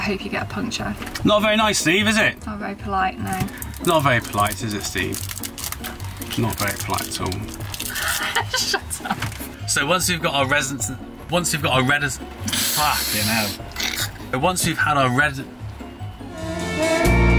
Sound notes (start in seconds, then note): 7.9 laughing; 9.5 stumbling over his words; 12.1 laughing; 14.4 continues to stumble over his words